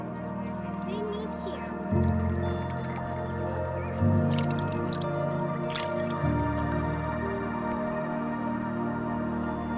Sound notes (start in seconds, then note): 5.2 water splashing